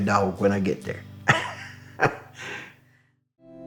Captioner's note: laughs